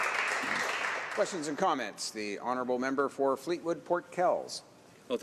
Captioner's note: some Applause